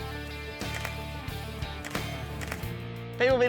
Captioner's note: camera clicks